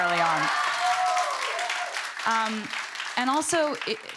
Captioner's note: cheering, applause